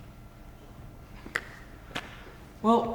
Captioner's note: lightly claps hands